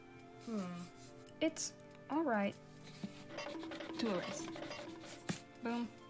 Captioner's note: cartoon running sound effect